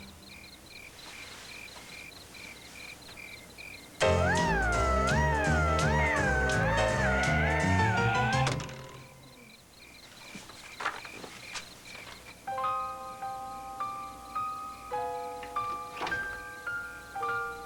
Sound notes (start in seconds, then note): 8.4 thump